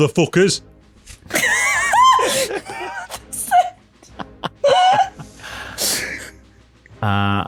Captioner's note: everyone breaks out in laughter in sheer disbelief at the nerve